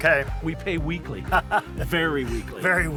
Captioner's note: laughs